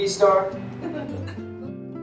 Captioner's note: laughter